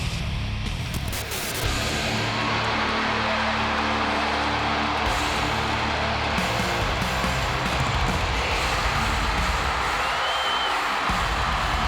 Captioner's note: applause